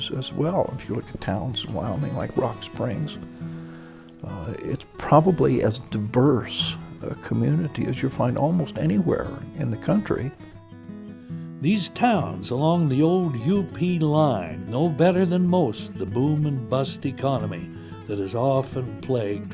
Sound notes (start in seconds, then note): 13.1 voiceover